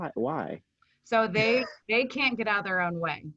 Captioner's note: chuckles